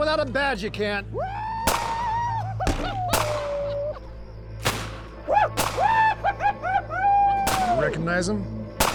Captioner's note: men shouting, firing guns